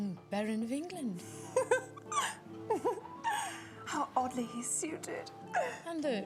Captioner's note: Portia laughs